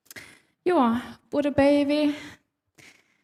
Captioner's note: speaking Sámi